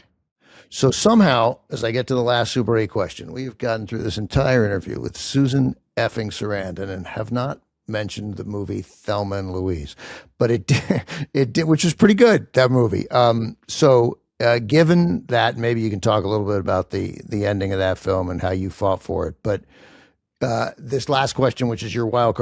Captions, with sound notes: So somehow, as I get to the last Super Eight question, we've gotten through this entire interview with Susan effing Sarandon and have not mentioned the movie Thelma and Louise, But it... (CHUCKLES) ...it-- Which is pretty good, that movie. So given that, maybe you can talk a little bit about the ending of that film and how you fought for it. But this last question, which is your wildcard question,